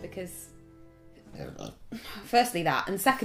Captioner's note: burp